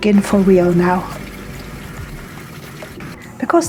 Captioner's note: sound of water